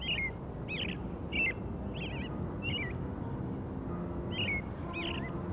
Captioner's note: traffic sounds